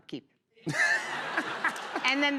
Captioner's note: laughter